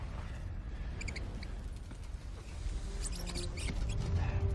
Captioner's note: chirping